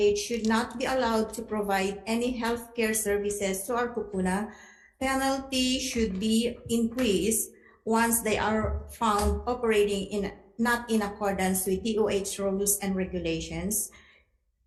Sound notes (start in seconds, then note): 4.0 speaking Hawaiian